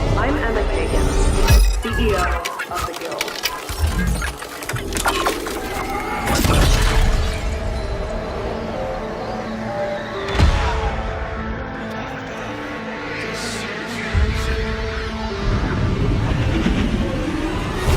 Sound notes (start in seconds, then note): 8.1 industrial music starts; 13.1 echoing